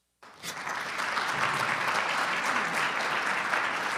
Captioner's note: audience clapping